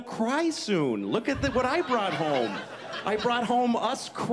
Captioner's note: audience laughs